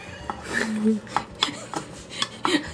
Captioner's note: laughs